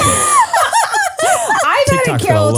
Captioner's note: laugh